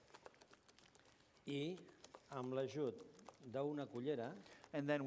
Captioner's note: non-english speech